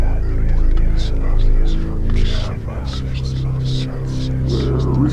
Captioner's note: dark music; ghostly whispering